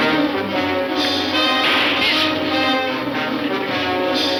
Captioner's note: gun shooting